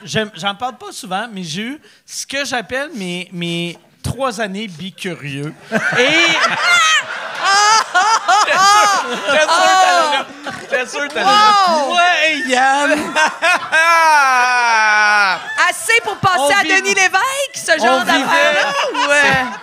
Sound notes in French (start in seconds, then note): 12.0 rires